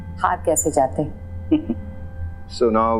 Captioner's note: chuckling